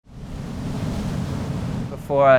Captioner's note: waves crashing